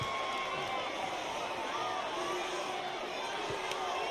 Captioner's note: crowd clamors